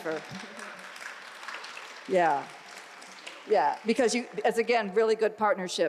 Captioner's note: applause